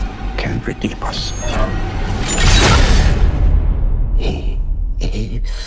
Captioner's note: metal thuds